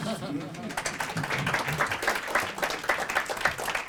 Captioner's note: applause